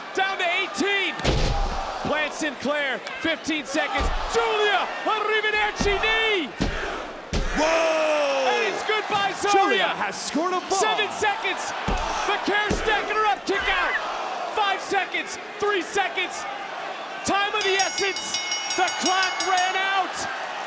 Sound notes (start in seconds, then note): 17.6 bell rings